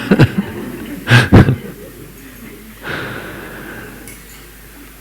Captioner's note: laughter